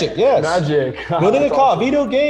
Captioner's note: laughing